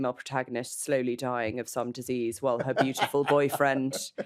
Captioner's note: laughs